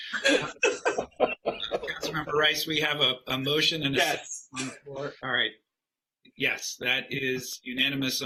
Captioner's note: laughter